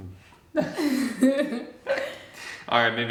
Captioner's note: both laugh